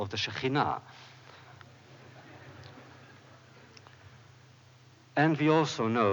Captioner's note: laughter